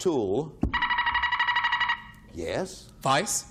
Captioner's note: buzzer beeping